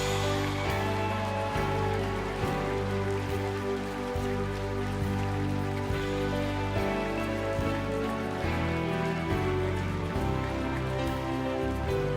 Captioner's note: applause